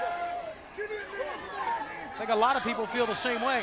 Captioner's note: crowd chatter